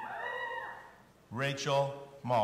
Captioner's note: audience cheering